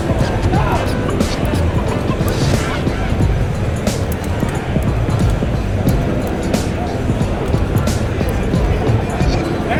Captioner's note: crowd chattering; upbeat music